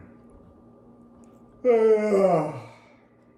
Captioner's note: yawns